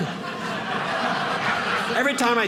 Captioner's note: audience laughing